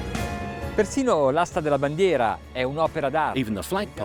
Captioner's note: speaking Italian